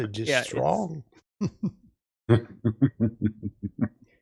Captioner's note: laughing